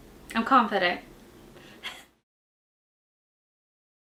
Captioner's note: laughs